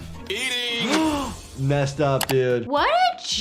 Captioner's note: gasps